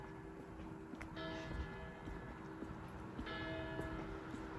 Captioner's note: church bell: 03:00; church bell: 04:00; church bell: 05:00